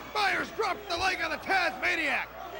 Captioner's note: crowd chatter